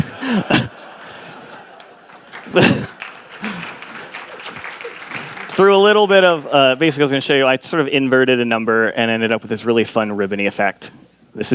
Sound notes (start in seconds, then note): 3.0 laughter